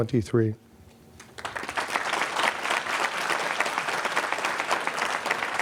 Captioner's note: applause